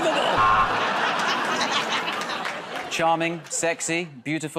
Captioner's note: buzzer